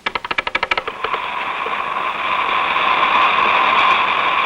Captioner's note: whooshing